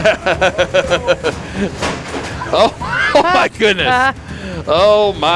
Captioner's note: laughs